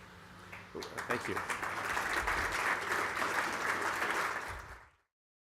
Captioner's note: applause